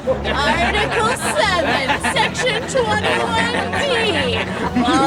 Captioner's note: crowd mocking